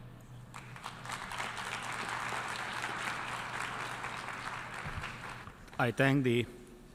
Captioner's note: applause